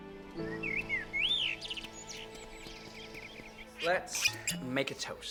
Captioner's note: birds tweet